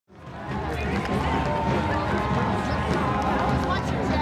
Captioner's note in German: Menge jubelt